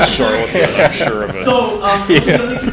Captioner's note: laughter